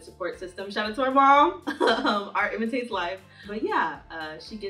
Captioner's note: laughing